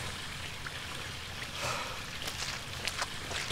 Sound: sighs

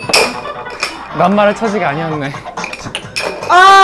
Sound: haha

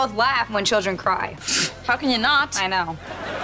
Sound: scoffs

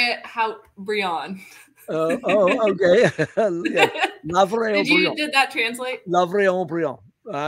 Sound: laughter

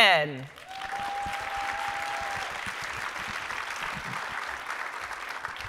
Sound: audience cheering and clapping

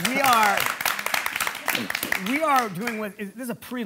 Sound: audience applauding

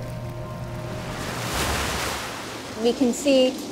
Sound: waves crash

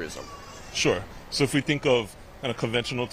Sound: laughter

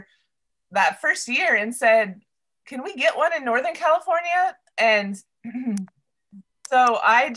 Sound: clears throat

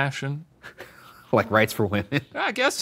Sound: laughs

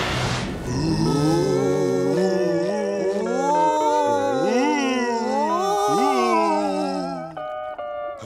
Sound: moaning

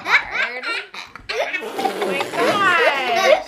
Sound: laughing; blowing

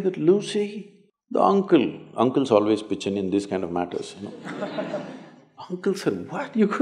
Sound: laughter

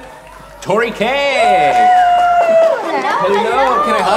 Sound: audience cheering; clapping

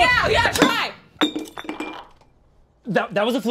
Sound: glass tinkers

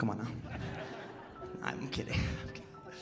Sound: audience laughing

